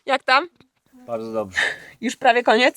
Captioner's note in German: spricht in einer Fremdsprache